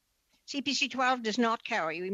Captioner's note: speaking French